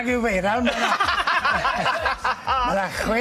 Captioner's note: laughter